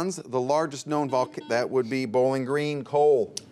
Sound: buzzer beeps

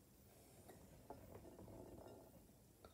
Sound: bowl rolling on table

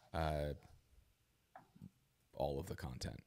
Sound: none

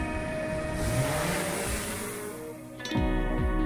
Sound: drone propellers

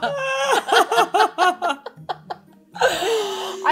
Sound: women laughing

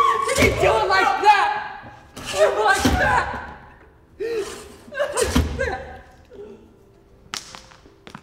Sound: sobbing

